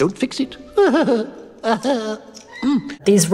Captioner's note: Cogsworth chuckling